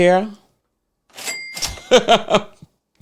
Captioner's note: cash register ringing; laughing